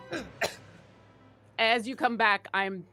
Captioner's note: coughing